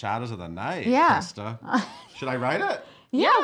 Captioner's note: laughing